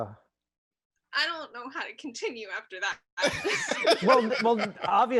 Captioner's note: laughs